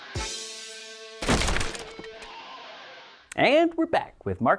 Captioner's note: cracking sound